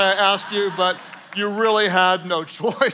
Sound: congregation laughing

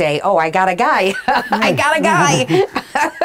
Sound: laughing

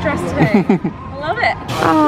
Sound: laughing

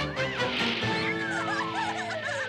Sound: laughing

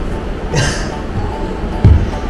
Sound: laughs

